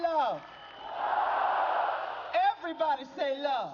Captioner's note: crowd